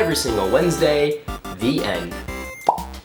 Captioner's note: pop